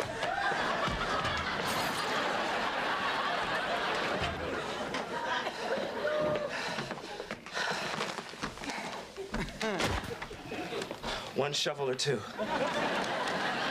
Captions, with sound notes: [CRASH] ONE SHOVEL OR TWO?